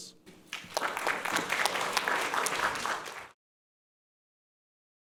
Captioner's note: audience applauding